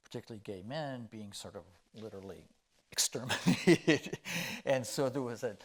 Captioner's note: chuckling